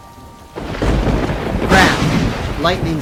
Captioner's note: thunder roars